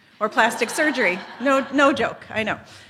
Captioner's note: laughter